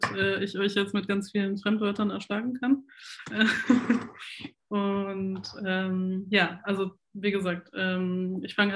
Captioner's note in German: lacht